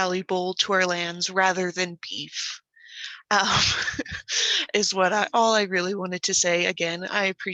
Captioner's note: laughs